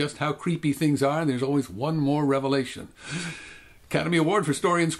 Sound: sigh

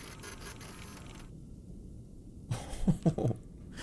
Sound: machine whirring; nervous laugh

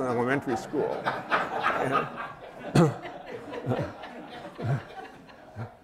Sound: laughter

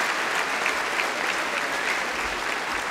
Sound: applause

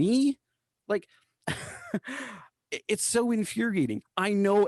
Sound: laughter

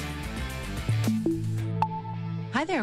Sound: Alexa startup beeps

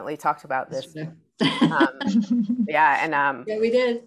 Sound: laughs

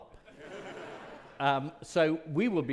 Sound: audience laughing

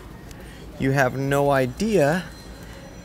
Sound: none

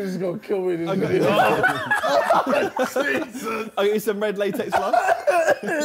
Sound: group chattering

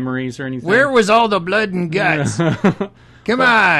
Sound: laughs

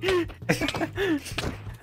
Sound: laughing

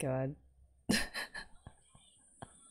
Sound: laughs

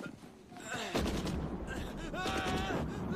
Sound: screaming

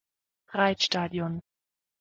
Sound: fast Pronunciation

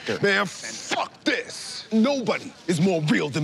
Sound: none

